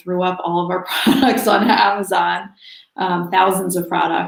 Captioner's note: laughs